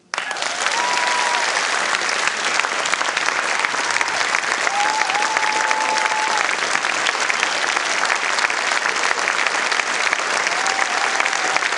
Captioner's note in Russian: Аплодисменты